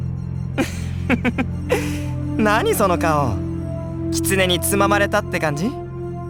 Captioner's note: chuckle